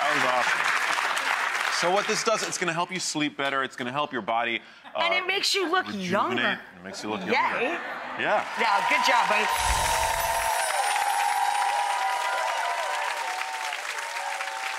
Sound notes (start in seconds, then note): 8.3 audience applauding; 9.4 chimes ringing